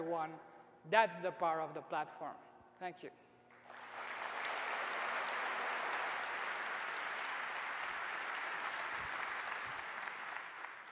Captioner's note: applause